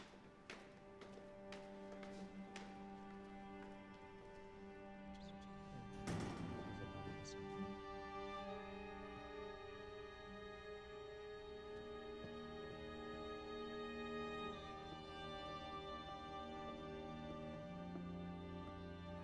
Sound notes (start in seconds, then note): 0.1 somber music; 5.5 indistinct chatter; 5.9 door opens